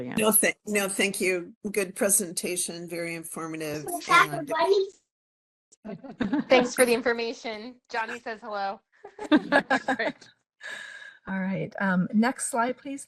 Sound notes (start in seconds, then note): 3.8 child voice in background; 5.9 laughing; 9.0 laughing